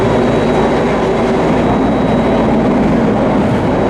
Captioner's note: train clatters